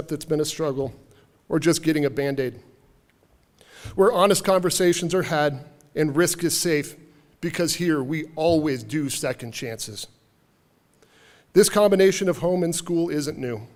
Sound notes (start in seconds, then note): none